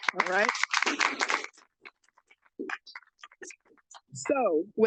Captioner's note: audience applauds